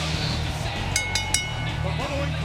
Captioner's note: bell rings